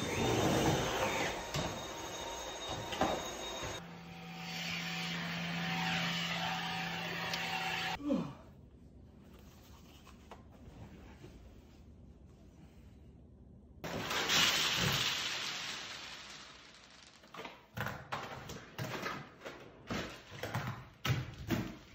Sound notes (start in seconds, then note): 0.0 vacuum sounds; 14.4 snack spilling